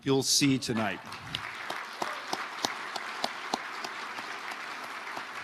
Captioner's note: audience applauding